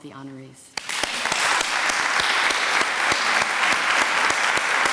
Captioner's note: applause